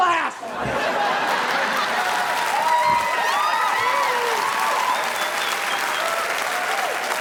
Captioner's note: audience laughing; audience applauding